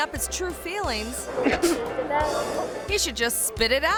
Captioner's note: coughs